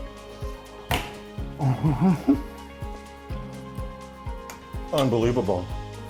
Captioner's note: humming in enjoyment; slapping of hands on table